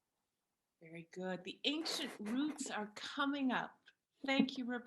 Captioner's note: laughter